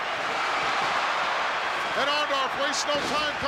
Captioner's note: crowd cheers